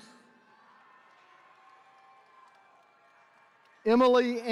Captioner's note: attendees cheering